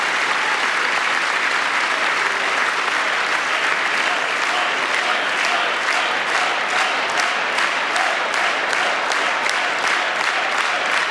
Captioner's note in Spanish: aplausos